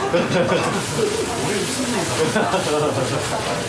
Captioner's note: laughs